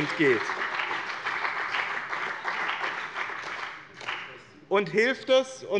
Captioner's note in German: Beifall bei dem BÜNDNIS 90/DIE GRÜNEN und der CDU